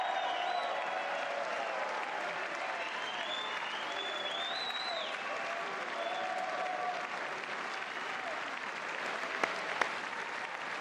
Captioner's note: applause